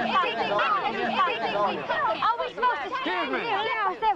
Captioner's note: shouting